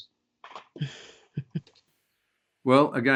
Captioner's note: laughs